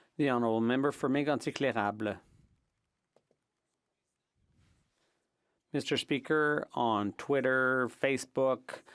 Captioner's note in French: voix de l'interprète